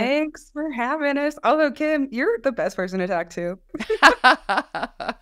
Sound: laughs

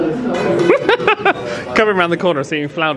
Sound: laughing

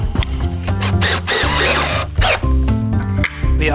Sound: drill whirring

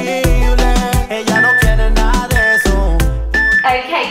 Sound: workout timer beeping

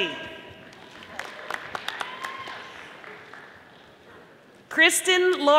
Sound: audience applauding

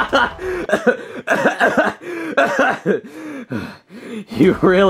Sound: Mario laughing sinisterly; Mario coughing

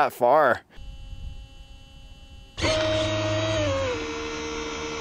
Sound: engine whirring

